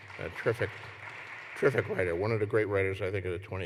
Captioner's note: applause